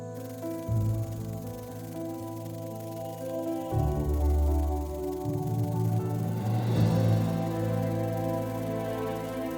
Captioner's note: wings flutter